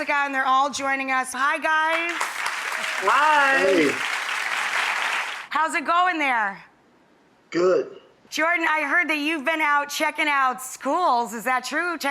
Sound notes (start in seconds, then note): 1.9 audience applause